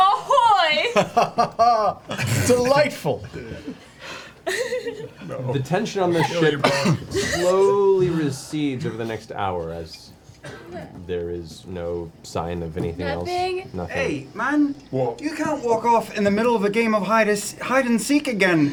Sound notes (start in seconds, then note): 1.9 hearty laugh